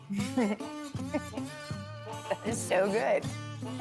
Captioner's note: laughs